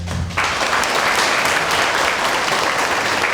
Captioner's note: applause